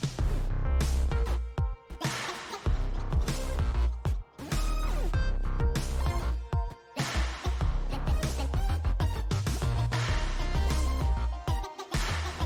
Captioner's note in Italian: Applauso